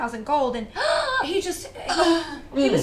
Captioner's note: gasps